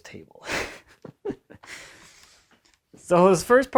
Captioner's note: giggles